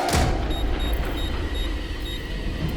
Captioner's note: beeping